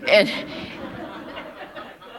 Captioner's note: laughter